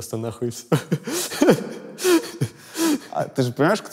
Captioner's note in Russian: смеется